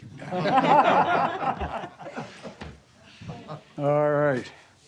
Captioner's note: laughter